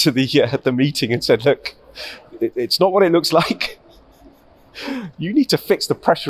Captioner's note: chuckles